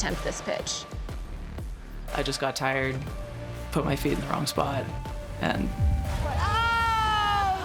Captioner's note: woman yelling